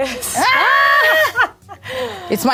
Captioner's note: laughing